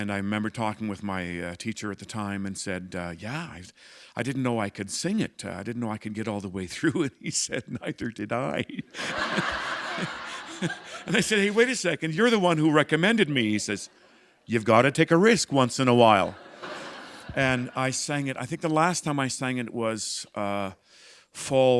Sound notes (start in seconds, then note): 8.5 laughter